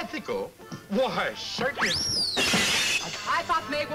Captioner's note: glass shatters